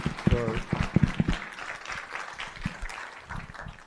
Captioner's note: applause